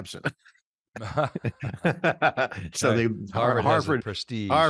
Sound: laughs

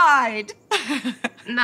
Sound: laughing

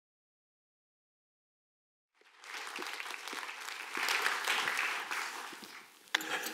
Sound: applause

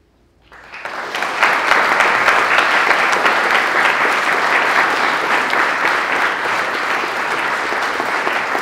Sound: applause

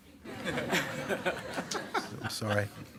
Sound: attendees laughing

